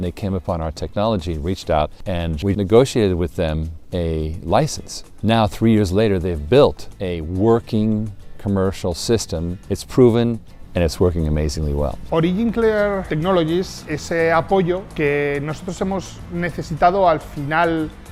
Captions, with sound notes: and they came upon our technology and reached out, and we've negotiated with them a license. Now three years later, they've built a working commercial system, it's proven and it's working amazingly well. (Spanish guitar music) - (speaking Spanish)